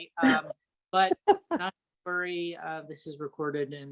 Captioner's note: chuckles